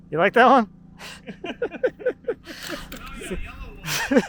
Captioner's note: both laugh